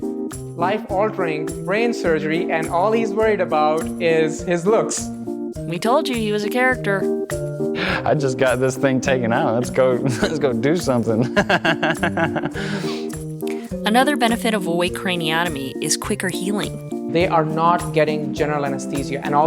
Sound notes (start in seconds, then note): 11.3 laughs